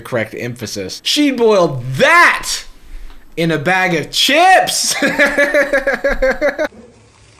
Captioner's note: laughs